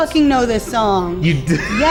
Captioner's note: laughs